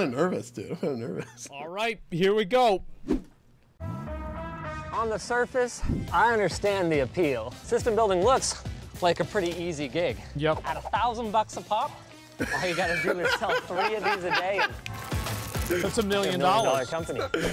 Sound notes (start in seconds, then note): 12.4 laughter